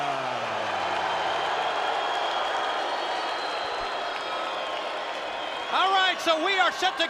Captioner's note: spectators cheering and applauding